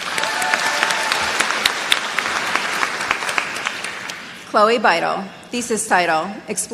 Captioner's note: applause